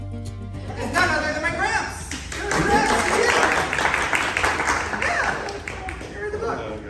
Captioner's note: applause